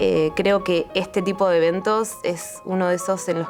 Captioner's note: in Spanish